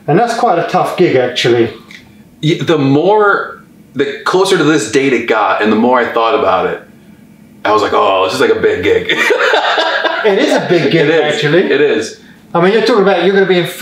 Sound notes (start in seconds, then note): 9.1 laughs